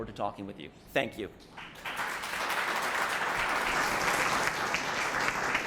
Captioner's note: applause